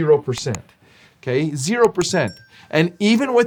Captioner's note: bell dings